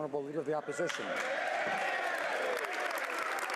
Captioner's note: speaking French